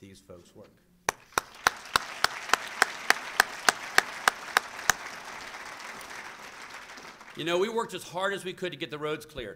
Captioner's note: applause